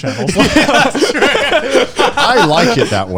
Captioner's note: all laughs